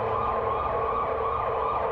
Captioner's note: emergency siren wails